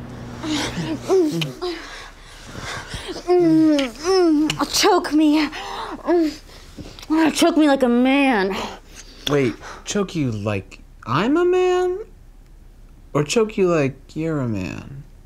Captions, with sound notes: (Emily moans in pleasure) - Choke me. Choke me like a man. - Wait, choke you like I'm a man, or choke you like you're a man?